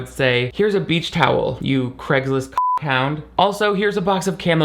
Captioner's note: beep